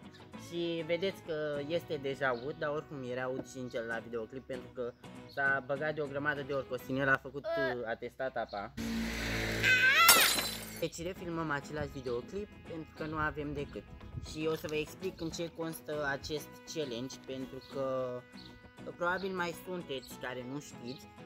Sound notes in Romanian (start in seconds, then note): 8.8 vrrrum; 9.6 aaa aaaaaa